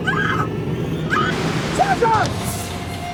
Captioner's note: static